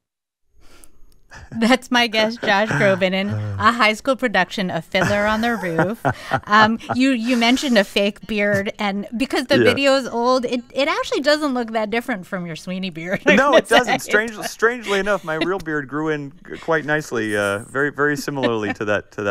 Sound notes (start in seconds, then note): 5.0 laughter; 13.0 laughter